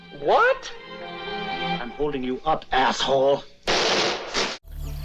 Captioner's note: gunshot